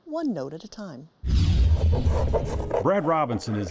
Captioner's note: tool scraping